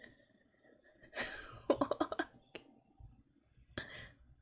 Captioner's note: laughs